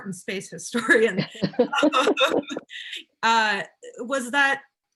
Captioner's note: laughs